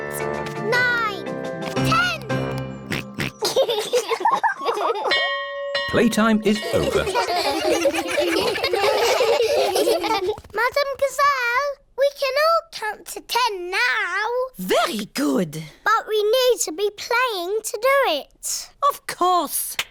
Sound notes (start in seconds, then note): 2.8 oinks; 3.0 both laugh; 5.1 bell chimes